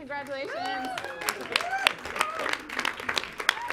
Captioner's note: clapping